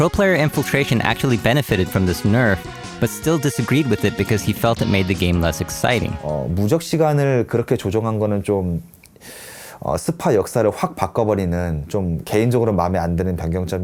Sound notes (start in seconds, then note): 5.8 speaking Korean